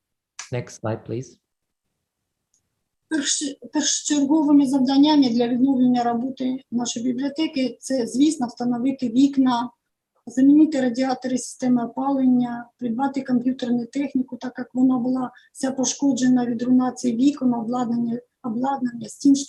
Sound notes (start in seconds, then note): 1.9 foreign Language